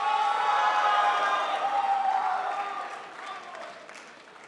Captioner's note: crowd applauds